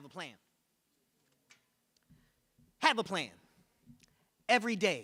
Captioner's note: none